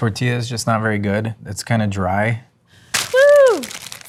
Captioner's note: wrapper crunching